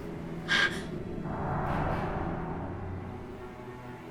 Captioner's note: gasps